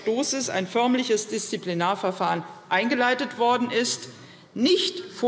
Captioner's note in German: none